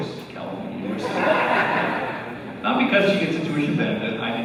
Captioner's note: laughter